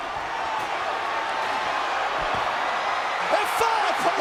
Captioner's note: audience cheering